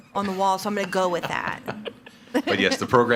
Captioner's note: laughing; attendees laughing